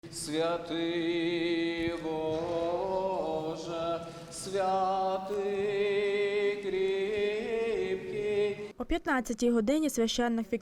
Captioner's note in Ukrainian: Лунає молитва